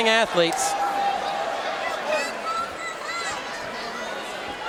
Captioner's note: audience cheering